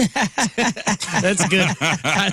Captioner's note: laughing